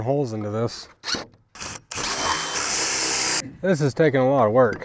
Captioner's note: drill whirling